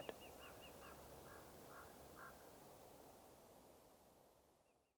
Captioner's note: birds chirping